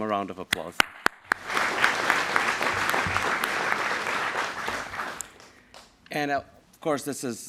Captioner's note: applause